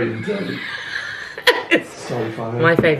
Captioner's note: laughs